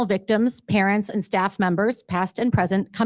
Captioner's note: none